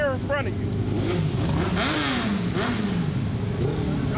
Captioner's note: engine revving